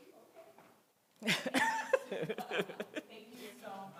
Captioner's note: laughter